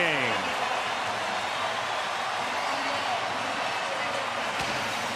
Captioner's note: cheering